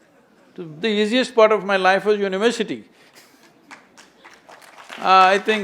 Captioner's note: applause; laughs